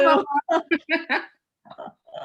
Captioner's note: laughter